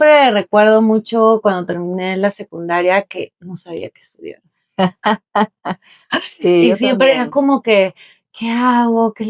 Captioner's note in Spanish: risas